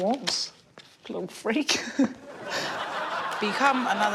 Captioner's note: chuckles; audience laughs